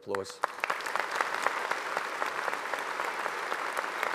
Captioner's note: audience applauding